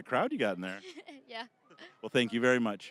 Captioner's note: laughing